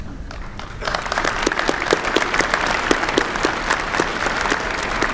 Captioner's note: applause